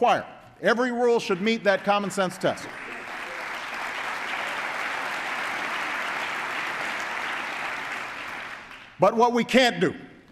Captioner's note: applause